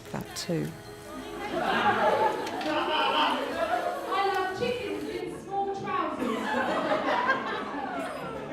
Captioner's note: reciting group poem